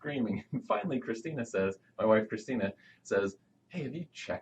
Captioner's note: chuckles